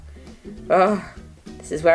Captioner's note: pleased sigh